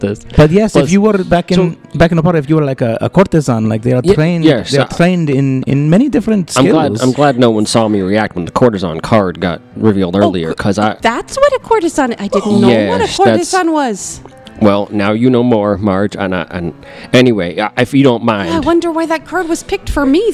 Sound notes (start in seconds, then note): 11.5 splutters